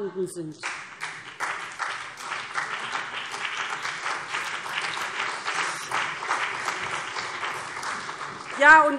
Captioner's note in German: Beifall BÜNDNIS 90/DIE GRÜNEN und CDU